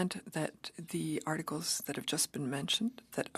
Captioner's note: speaking French